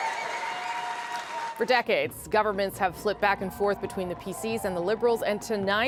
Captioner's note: cheers and Applause